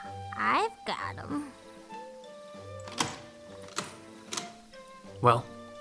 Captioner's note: locks opening